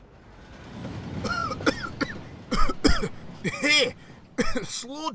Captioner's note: fergus coughs